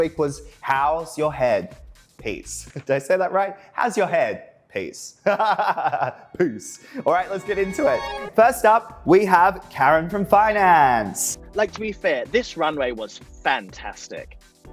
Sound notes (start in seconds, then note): 5.3 laughing